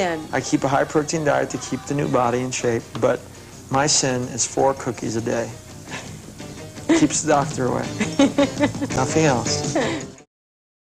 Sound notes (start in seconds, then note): 7.9 laughter